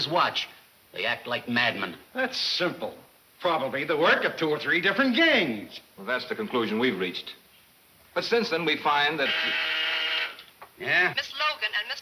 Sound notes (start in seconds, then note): 9.0 intercom buzzing; 11.0 woman On Intercom